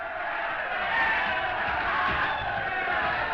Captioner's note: all chanting